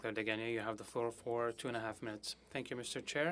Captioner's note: speaking French